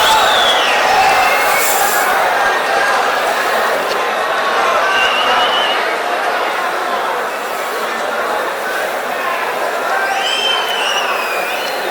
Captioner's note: wild applause and cheering for 22 seconds